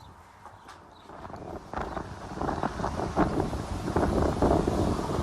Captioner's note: wind blowing